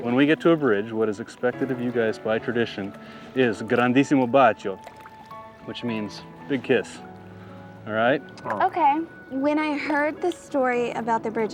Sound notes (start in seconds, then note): 3.4 gondolier speaks in Italian